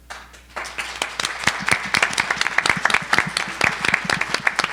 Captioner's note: audience applauding